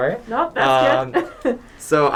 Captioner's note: laughs